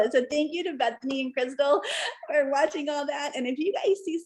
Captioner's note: laughter